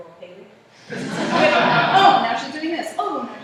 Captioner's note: laughter